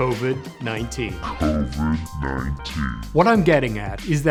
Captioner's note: computer voice